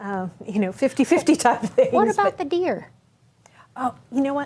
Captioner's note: chuckles